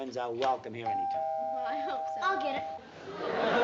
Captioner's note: doorbell ringing